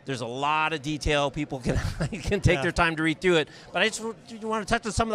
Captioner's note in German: lacht